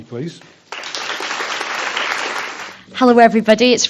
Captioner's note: applause